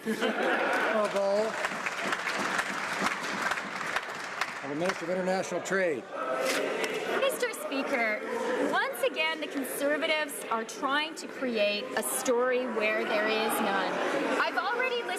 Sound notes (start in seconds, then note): 5.2 some Applause